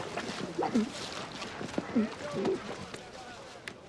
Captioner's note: muffled gurgling